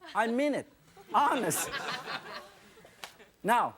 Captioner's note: audience laughing